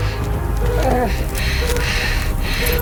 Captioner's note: groans